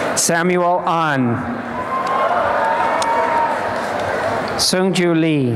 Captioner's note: applause and cheering